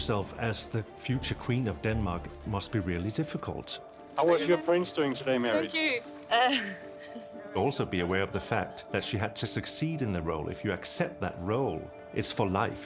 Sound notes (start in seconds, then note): 7.0 giggling